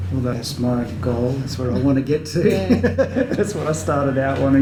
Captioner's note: laughs